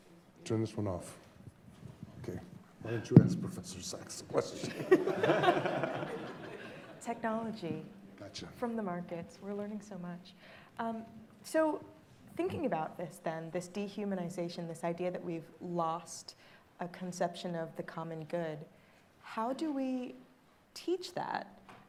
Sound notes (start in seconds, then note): 4.6 audience laughing